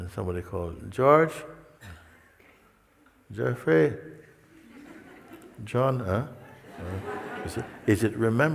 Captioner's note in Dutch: gelach